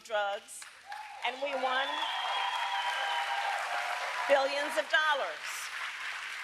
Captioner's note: applause